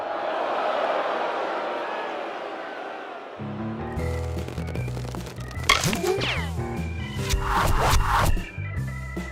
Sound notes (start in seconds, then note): 0.0 crowd boos; 7.2 arrows hitting